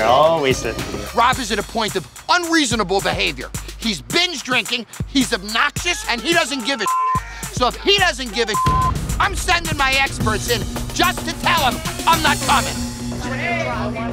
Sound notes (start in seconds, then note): 6.8 beep